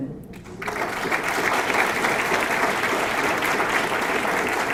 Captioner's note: audience clapping